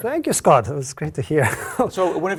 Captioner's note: laugh